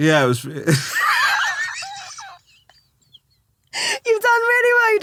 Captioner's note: laughing